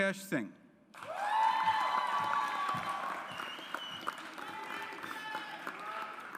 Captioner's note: audience applauds